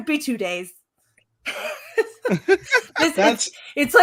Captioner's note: laughing